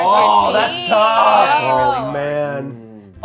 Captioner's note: groans